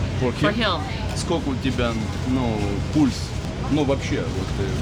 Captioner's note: speaking in a different language